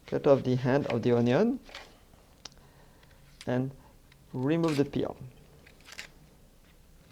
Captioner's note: peeling sounds